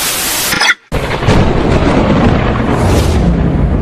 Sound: thunder rumbles

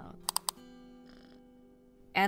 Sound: mouse clicks

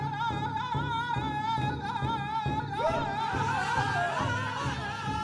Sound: chants in Native language

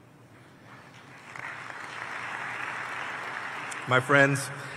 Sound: applause

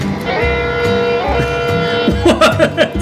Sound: laughing; train horn blowing; laughing

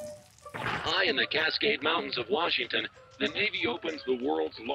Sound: radio

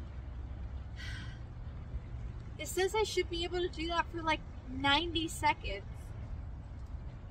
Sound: exhales

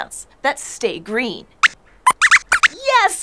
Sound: squeaks squeaks

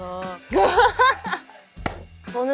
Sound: agreeing laughter

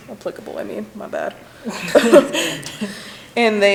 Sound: people laughing

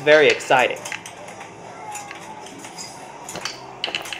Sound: billiards playing continues

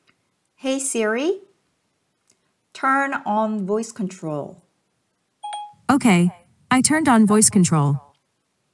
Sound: sound from phone

